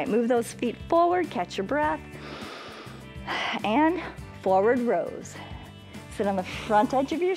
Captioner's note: inhales and exhales